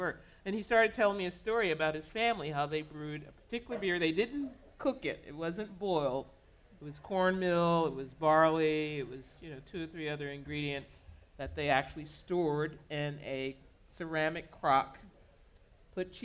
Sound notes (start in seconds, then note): none